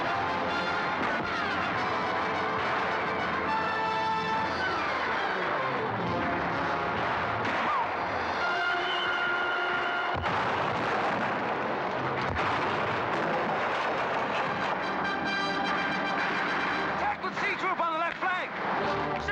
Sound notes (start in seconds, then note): 0.0 dramatic music; 0.3 gunfire; 10.1 cannon firing; 10.7 wall crashing in; 12.1 cannon firing; 13.1 wall crashing in; 15.7 dramatic music; 15.7 gunfire